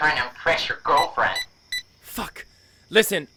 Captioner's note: phone beeps